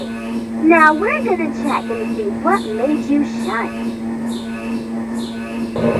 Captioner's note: MRI Intercom Calling